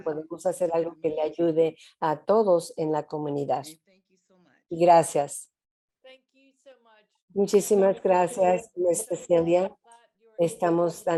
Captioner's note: Spanish